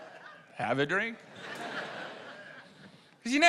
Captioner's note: laughter